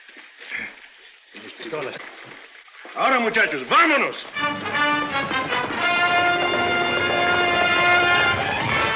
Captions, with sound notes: [ IN SPANISH ] Let's go now, boys! [ TENSE MUSIC ]